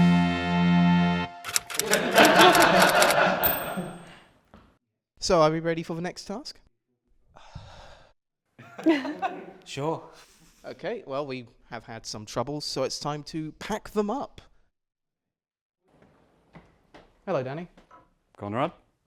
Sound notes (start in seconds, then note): 7.3 sighs; 8.6 laughter